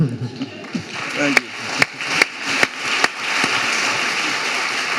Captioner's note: audience applauding